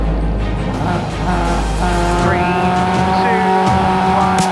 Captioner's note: intense music; engines revving